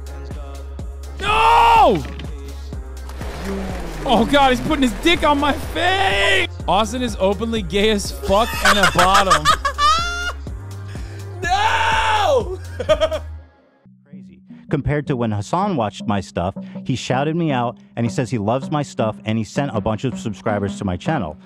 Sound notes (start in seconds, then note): 8.3 laughing; 12.5 chuckling